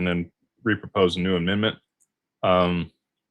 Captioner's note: none